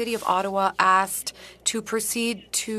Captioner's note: speaking French